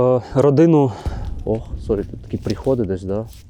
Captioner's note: explosion in the distance